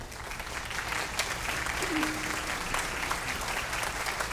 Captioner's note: audience applauding